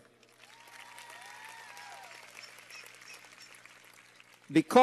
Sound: cheers and applause

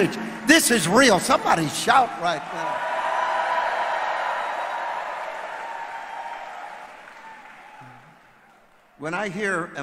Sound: audience shouts

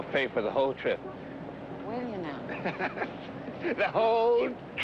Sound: Roy laughing

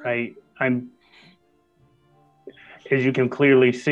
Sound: sighs

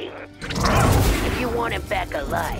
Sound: Ozzie growls

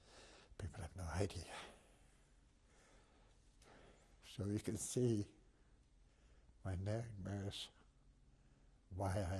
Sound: pauses for 3 seconds

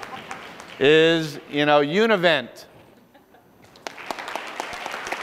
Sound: applause

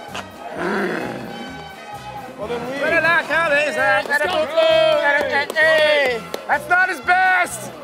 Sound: speaking gibberish

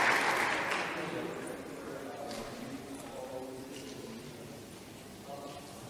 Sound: audience murmuring

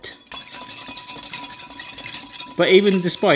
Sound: glass tinkling

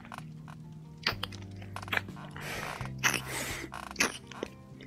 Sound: making out

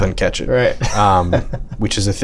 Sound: laughter

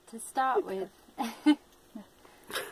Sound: general laughter

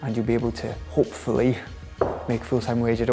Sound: knocks

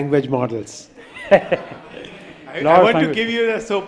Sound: laughter

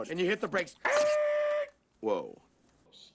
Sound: screeching

